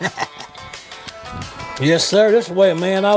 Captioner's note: chuckles